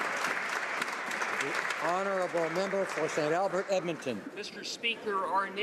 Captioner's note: applause